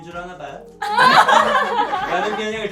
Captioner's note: giggling